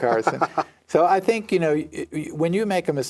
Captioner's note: laughs